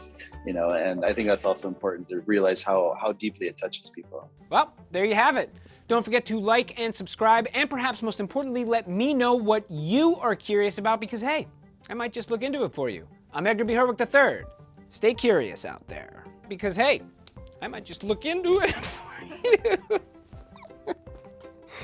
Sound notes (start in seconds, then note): 18.6 laughs